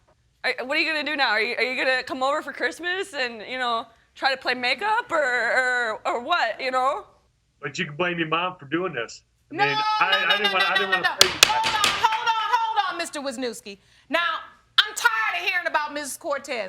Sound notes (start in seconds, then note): 11.2 banging gavel